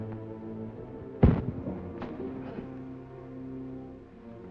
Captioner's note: object thuds